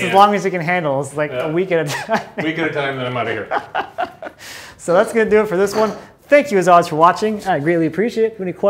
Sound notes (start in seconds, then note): 3.9 laughs